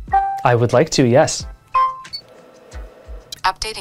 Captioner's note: pin beeping